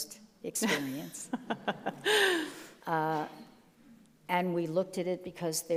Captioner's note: laughs